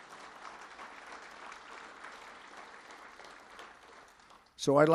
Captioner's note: applause